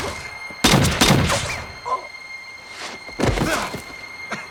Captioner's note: gun fires; suspenseful music